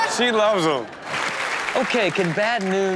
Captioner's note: audience applauds